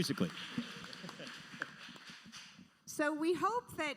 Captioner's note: audience applauding